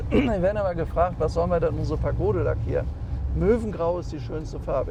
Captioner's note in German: räuspern